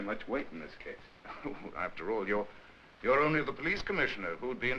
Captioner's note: chuckles